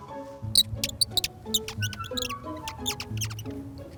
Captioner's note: birds chirp